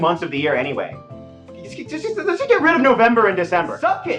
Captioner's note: stammering